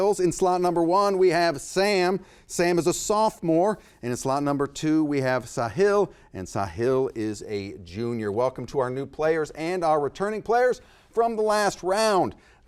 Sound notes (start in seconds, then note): none